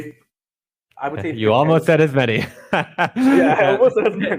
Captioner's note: both laugh